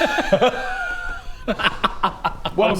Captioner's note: childish giggles